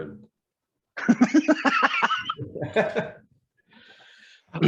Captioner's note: laughs